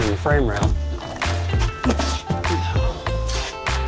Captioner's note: grunting